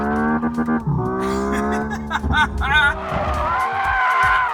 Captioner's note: laughs